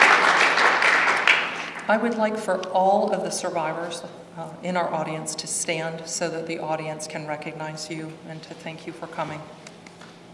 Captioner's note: applause